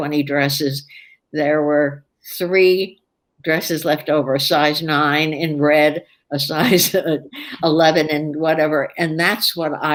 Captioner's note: laughs